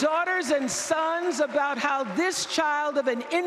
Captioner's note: applause